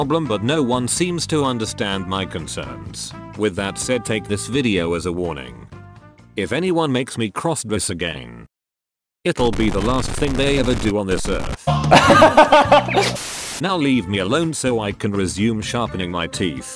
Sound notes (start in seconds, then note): 11.6 laughing